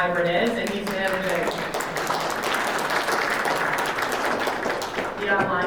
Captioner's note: audience applauds